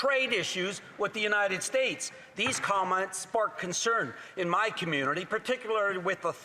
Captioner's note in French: voix de l'interprète